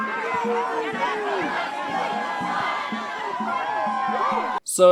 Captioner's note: crowd cheers